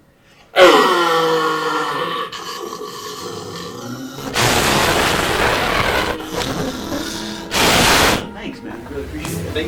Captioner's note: daemon growls